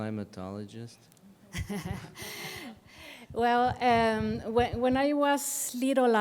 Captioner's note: laughter